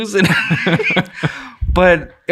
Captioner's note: innocent, laughing